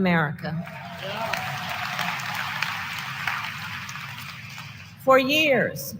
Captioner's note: applause